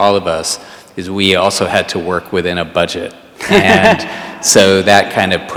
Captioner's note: all laugh